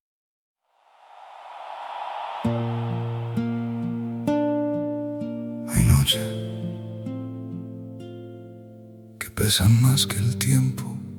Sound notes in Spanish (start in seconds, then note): 4.7 ovación